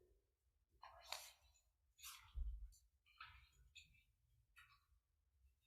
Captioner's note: paper rustling loudly